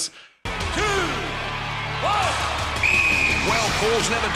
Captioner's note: whistle blows